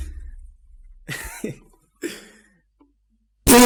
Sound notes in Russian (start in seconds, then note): 1.1 Офигенный смешок